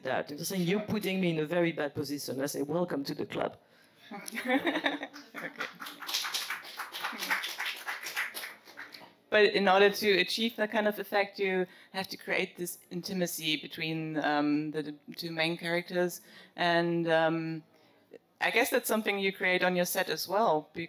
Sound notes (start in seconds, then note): 4.2 laugh; 5.1 applause